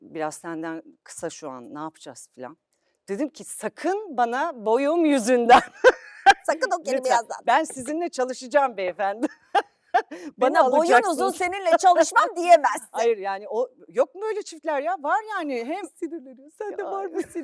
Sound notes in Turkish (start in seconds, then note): 5.5 kahkaha; 16.6 kahkaha